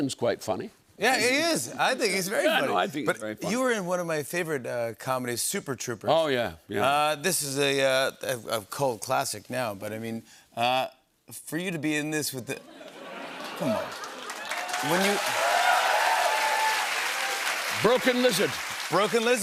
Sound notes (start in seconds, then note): 12.6 laughter; 13.4 cheers and applause